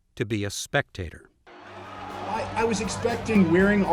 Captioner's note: crowd cheers